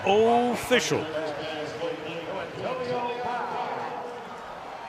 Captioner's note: pa announcement